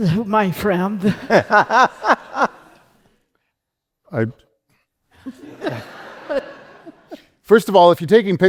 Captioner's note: laughter